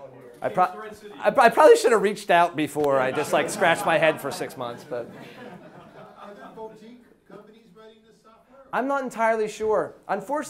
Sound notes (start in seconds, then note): 5.0 audience laughs